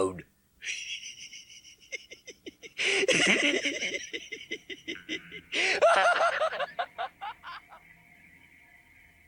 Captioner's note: Gatekeeper laughs at your misery